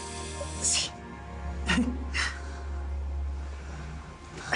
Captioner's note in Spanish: Sollozando